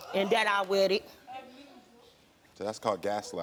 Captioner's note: audience reacting